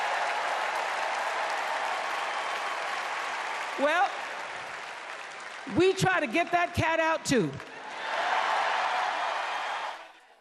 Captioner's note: cheers and Applause